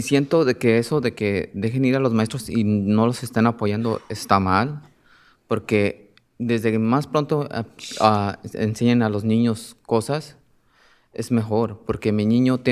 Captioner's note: speaking spanish